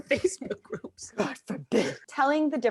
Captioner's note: raspy voice